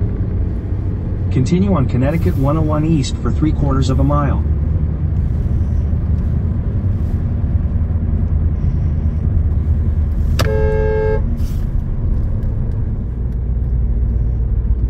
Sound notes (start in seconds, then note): 6.2 honks horn